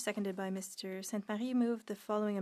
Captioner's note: speaking French